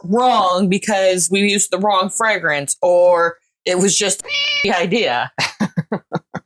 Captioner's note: meow